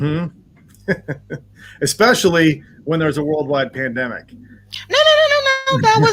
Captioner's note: laughs